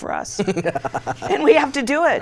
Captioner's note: laughs